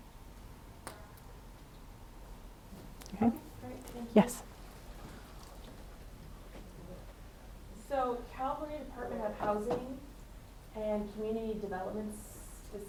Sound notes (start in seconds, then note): 8.0 attendee Through Translator